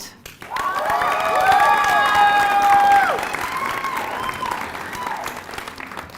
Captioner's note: applause